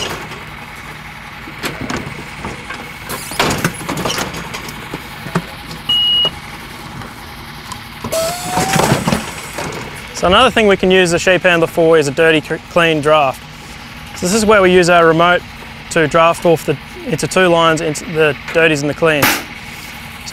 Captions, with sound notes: (loud banging) (beep) So another thing we can use the sheep handler for is a dirty/clean draft. So this is where we use our remote to draft off into two lines, into the dirties and the cleans.